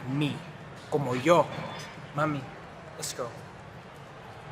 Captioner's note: spanish language